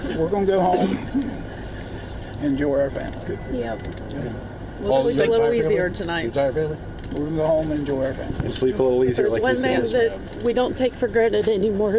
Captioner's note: laughter